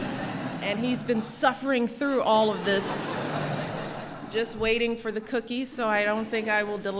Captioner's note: laughter; laughter